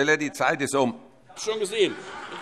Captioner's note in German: Heiterkeit